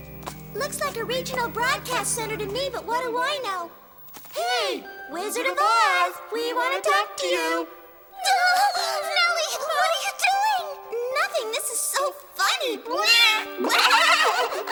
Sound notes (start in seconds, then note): 7.8 exclaiming